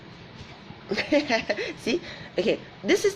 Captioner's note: laughs